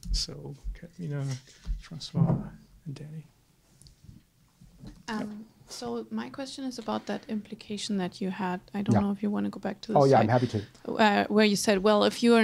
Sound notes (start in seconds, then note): 5.2 voiceover; 11.3 voiceover